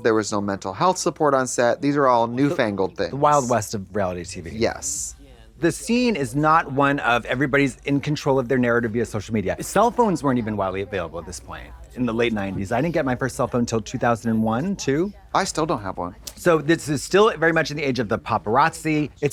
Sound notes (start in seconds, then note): none